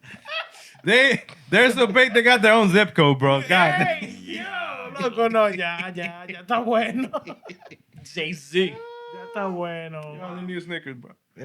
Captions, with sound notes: (Laughter) They-- there's no faith they got their own zip code, bro. (Non-english Speech) Jay-Z. (Non-english Speech) You only use sneakers, bro.